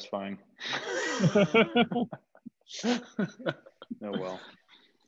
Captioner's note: everyone laughing